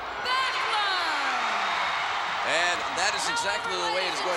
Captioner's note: crowd cheers